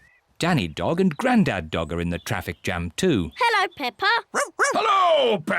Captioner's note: barks; snorts